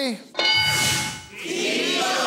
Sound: bell dinging

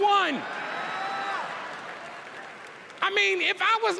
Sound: cheering

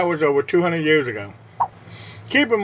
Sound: swipe Sound

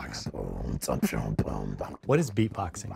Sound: beatboxes

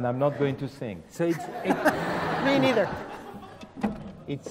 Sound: laugh

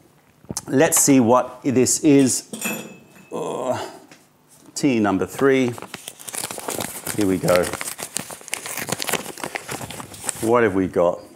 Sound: opening envelope

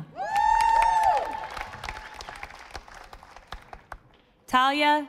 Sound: audience applauding

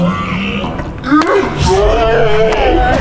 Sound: cheering

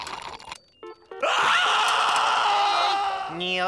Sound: slurping; screaming

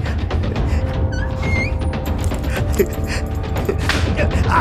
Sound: door creaking; belt whipping; Leonard groaning

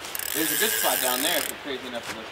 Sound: reel cranking

